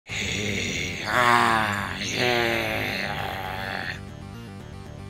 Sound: displacer beast chasing blink dog, hissing & snarling

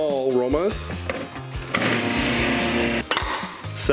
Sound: blender whirring

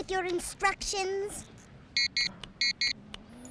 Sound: beeping

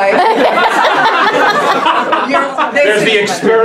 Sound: laughs

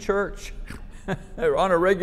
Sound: chuckling

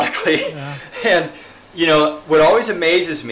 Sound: laughs

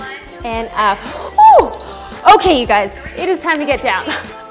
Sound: timer beeps

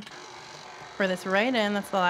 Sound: mixer whirring

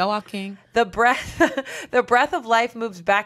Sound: laughs

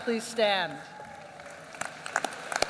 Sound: applause

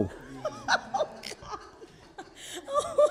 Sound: courtroom laughs

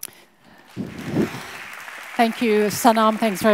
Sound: audience applauds

